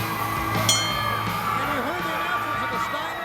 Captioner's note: bell rings